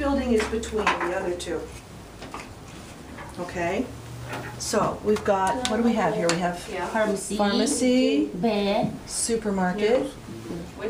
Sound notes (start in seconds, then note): 7.8 voiceover